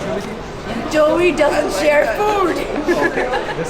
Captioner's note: Kubra Khan joking; laughs